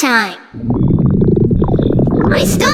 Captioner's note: stomach growls